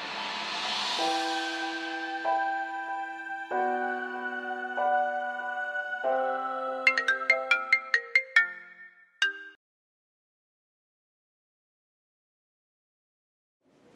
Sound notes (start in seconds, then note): 6.7 phone rings